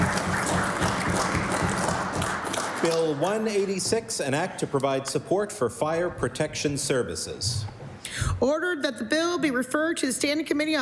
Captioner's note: applause